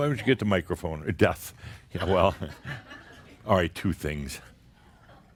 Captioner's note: more chuckles